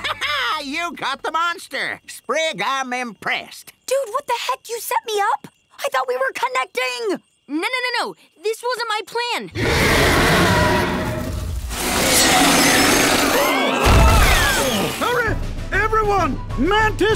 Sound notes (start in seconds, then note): 9.5 monster roaring; 13.9 gasping